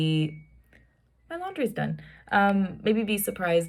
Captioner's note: washer chimes